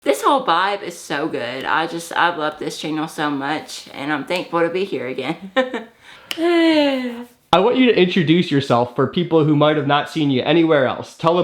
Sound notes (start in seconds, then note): 5.9 sighs; 6.1 laughs